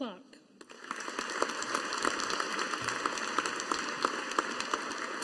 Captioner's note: audience applauding